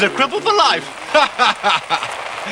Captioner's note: laughing